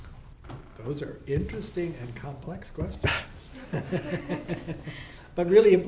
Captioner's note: laughs